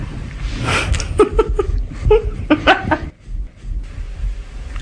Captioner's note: laughter